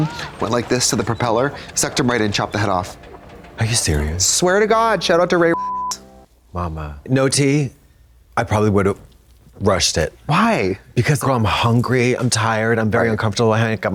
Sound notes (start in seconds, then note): 5.5 beep